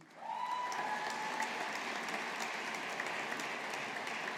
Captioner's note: audience applauding